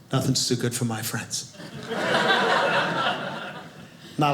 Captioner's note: audience laughing